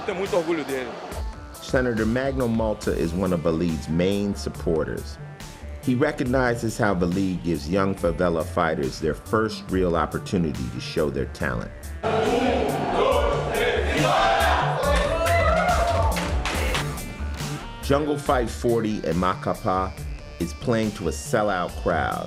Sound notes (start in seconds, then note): 11.5 chanting countdown; 14.6 cheering